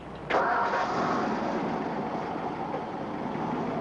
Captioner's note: engine revs